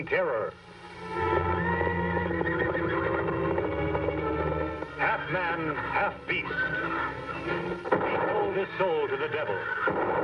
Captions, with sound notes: (horse whinnying) Half man, half beast. (gun shot firing) He sold his soul to the devil.